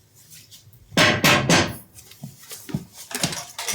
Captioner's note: BARDOLPH pounds stick on ground three times